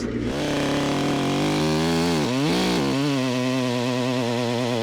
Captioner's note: chainsaw buzzing